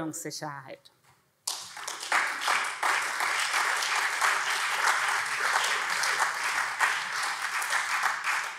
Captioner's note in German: Beifall SPD und CDU